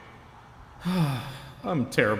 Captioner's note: sigh